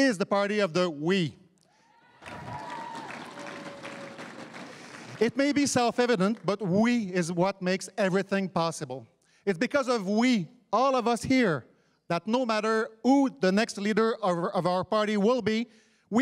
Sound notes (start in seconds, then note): 1.9 crowd cheering and applauding